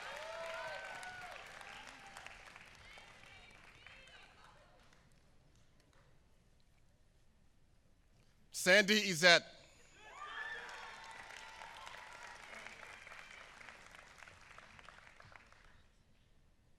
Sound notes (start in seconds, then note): 0.0 applause; 10.1 applause